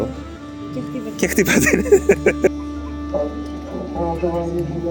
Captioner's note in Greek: γέλια